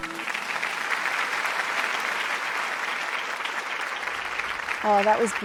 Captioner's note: applause